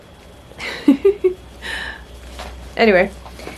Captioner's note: giggles